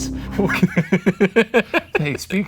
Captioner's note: laughter